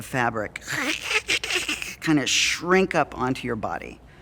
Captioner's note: squeaking